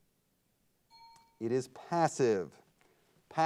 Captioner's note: timer bell dings